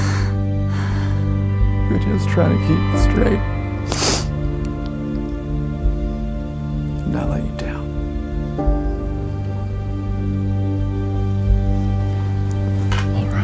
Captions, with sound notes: You were just trying to keep it straight. (crying) And I let you down. (somber music)